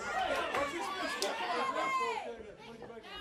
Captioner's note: crowd chatter